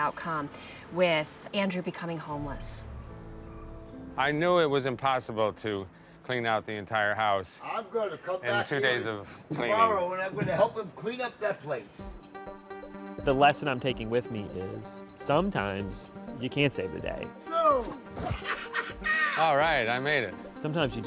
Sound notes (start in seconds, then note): 18.2 laughs maniacally